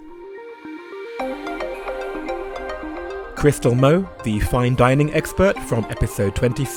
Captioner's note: voiceover